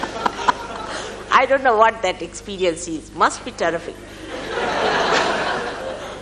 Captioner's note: laughter